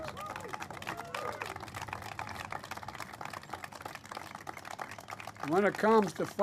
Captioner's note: applause